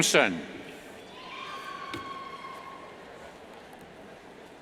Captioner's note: cheers